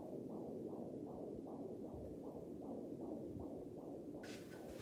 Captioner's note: heart beating